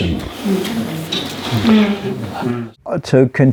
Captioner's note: audience agreeing